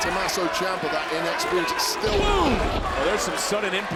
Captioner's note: body thudding